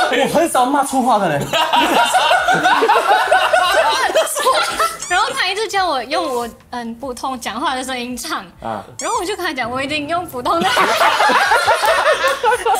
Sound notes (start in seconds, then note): 1.5 laughs; 11.2 laughs